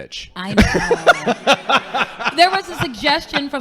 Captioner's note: laughing